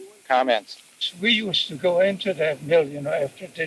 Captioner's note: cassette audio